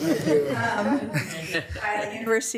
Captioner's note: attendees laughing